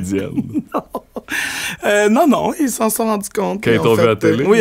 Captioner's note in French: éclat de rire